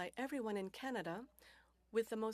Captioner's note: speaking French